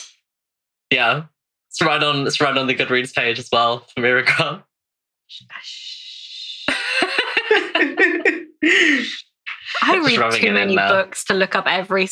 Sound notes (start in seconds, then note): 4.0 laughing